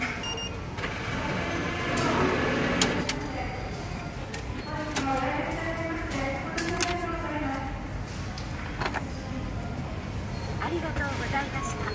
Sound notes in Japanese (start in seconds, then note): 0.1 交通系電子マネーの音; 2.7 明細票を発行する音